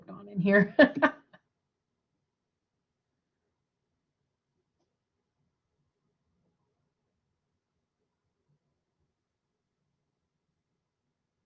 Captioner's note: laughter